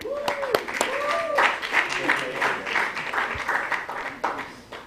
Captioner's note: applause